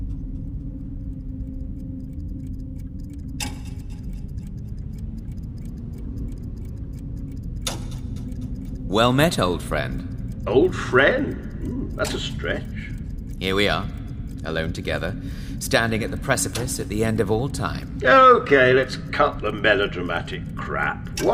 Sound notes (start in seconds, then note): 3.1 clock ticking